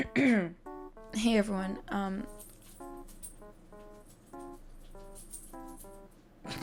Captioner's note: coughs